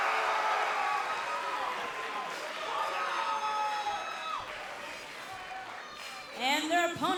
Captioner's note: crowd cheering; crowd chatter